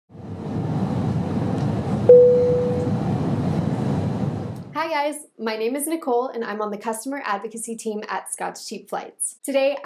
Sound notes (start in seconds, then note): 2.1 ding; 2.2 airplane takeoff sounds